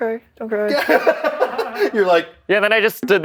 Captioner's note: laughter